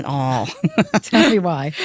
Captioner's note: laughs